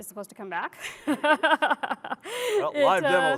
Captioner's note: laughter